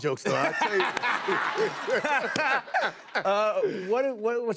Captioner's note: laughter